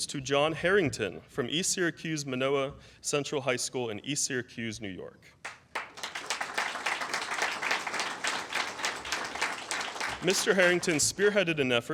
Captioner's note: applause